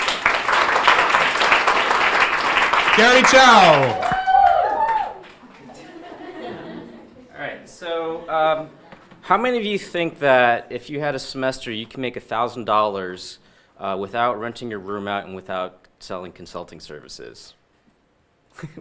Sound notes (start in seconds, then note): 0.0 audience applauds; 3.1 audience cheering and laughing